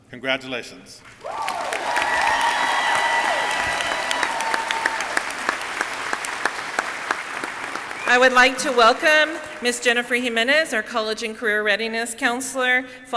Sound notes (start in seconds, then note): 1.0 audience clapping; 1.1 audience cheering